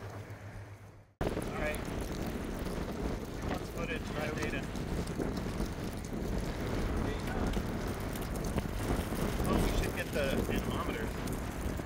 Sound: wind blowing, inaudible voices

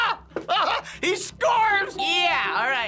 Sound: laughing jovially

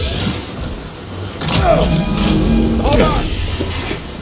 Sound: grunts

